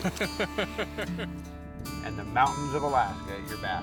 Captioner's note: laughter